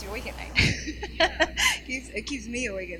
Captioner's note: laughing